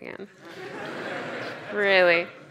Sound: audience laughs

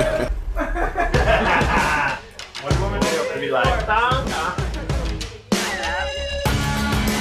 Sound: laughter

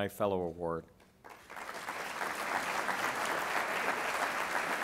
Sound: applause

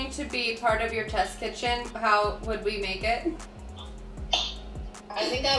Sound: chuckles

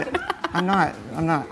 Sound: laughs

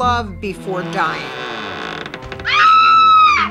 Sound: door creaking; woman screaming

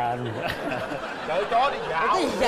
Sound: laughing

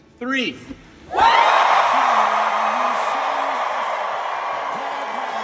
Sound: audience cheering

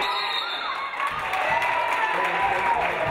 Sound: referee blows whistle; audience applauding

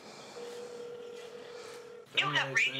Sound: phone rings

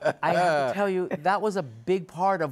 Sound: laughter

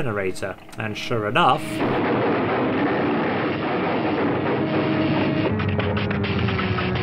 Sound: electrical sparking; generator powers down

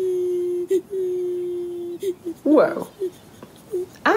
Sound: crying

